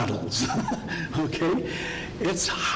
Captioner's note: laughing